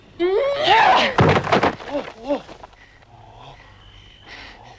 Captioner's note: Hundra shouts; Hundra panting